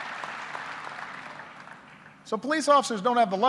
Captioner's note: applause